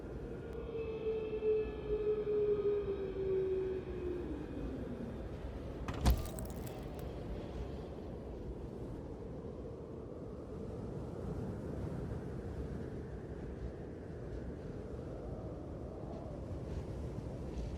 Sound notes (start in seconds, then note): 2.1 animal howling; 5.8 object thudding